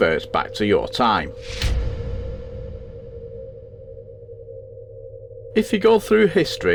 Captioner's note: sound FX